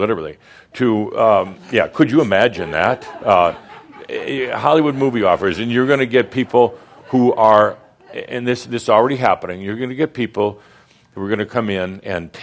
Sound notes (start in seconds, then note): 3.5 some chuckles